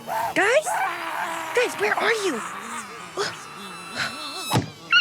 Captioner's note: screaming in the distance